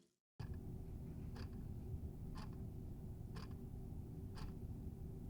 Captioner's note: clock ticking